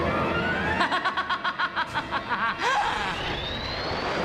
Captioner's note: laughs evilly